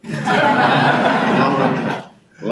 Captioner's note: audience laughing